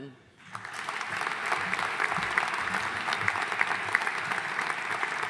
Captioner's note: audience applauding